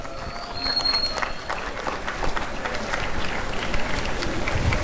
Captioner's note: applause and cheering